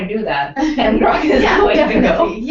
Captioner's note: laugh